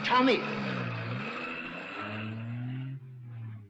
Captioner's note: engine roaring